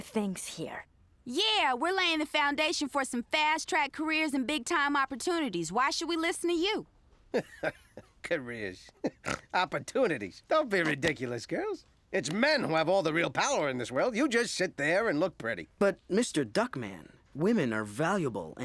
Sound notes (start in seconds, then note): 7.3 chuckling; 9.2 snorts